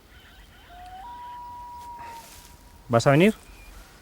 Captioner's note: owl calling